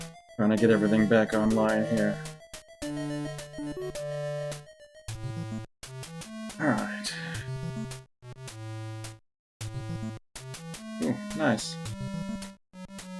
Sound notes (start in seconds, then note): 6.6 sighing